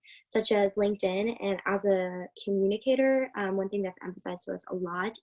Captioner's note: speaking faintly